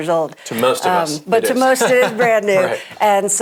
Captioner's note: laughs